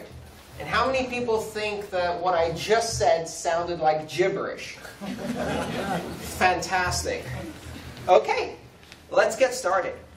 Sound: laughter

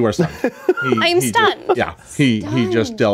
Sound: laughs

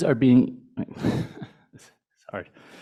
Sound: chuckling

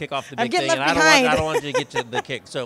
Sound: laughs

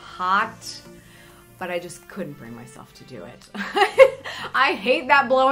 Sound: laughing

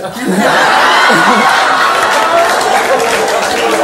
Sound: audience laughs

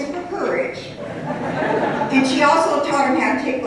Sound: laughter

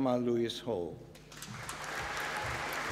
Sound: applause

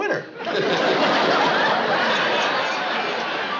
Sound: chuckles

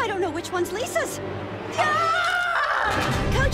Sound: screaming

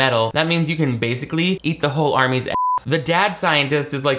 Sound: beep

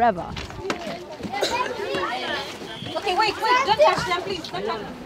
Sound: children talking

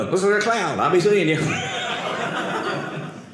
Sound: audience laughing

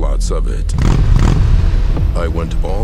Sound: engine revving

